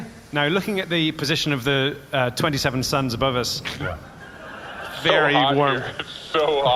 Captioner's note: laughing